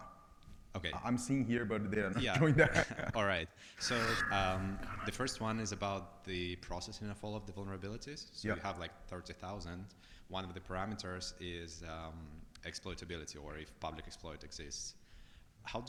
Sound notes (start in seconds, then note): 3.8 laughs